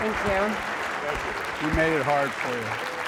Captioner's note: applause